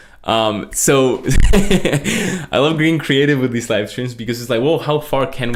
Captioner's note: laughs